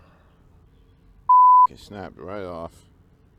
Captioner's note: beep